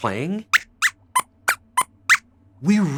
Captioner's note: squeaks squeaks